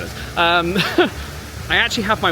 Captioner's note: chuckles